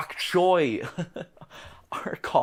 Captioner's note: chuckle